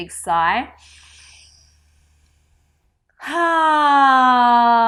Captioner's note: sighs loudly